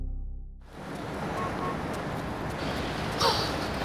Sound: street noise

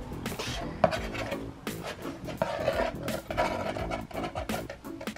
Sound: scraping box

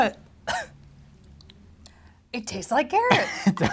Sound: coughs

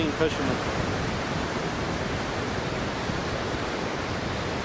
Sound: waves crashing

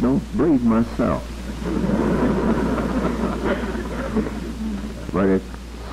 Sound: laughter

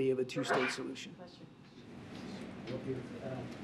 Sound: reporter sneezes

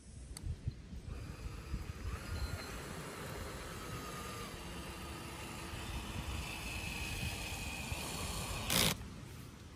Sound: power drill noise

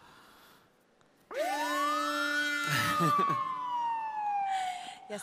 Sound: siren

